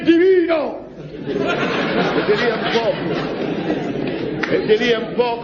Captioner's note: laughs